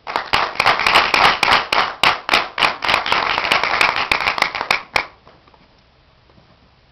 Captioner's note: audience claps